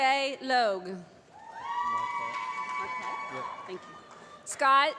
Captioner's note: applause